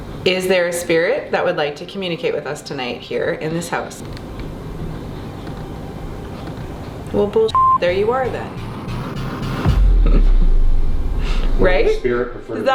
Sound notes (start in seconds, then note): 5.2 beeping; 9.1 intense suspenseful music; 10.0 chuckles